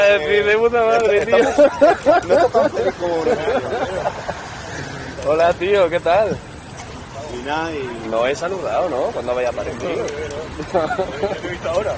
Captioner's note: laughs